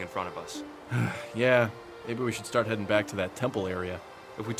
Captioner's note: sighs